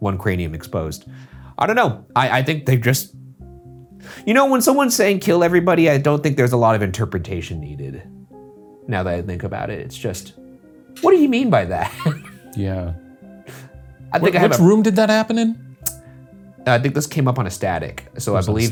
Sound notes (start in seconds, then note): 11.8 laughing